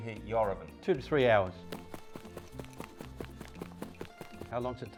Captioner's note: feet tapping